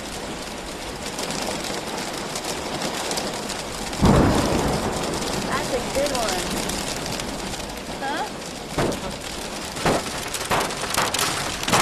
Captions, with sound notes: [LOUD THUNDER] THAT'S A GOOD ONE. HUH? [BANGING]